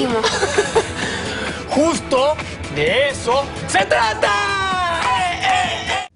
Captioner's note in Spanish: Ríe